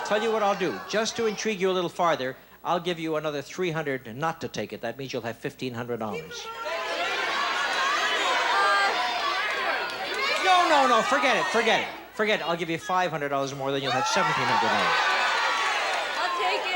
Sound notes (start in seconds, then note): 6.4 audience shouting